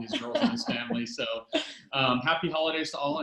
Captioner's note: laughs